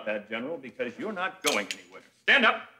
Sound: gun clicks

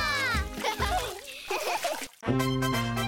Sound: laughter

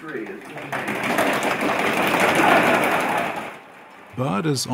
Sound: slapping tables

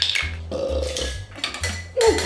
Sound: burps

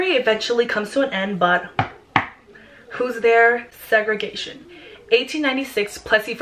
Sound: knock knock

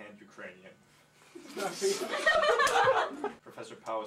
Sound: laughter

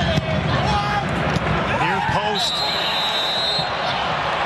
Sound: cheering and Applause

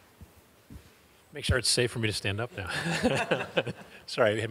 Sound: laughing

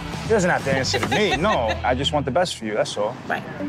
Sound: laughing

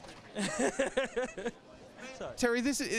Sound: laughs

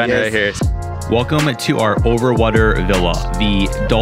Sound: voiceover

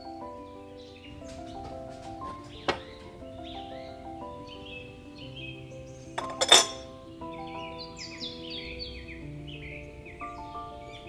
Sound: glasses clink

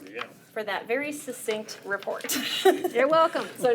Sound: chuckles

